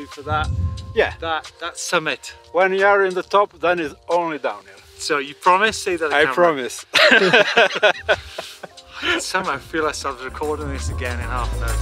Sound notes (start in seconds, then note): 6.9 both laugh